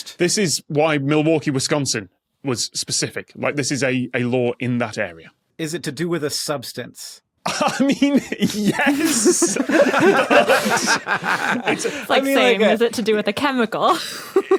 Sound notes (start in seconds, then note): 7.4 laughs; 10.1 group laughing